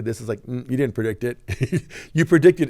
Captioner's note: chuckles